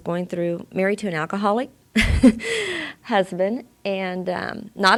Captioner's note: she laughs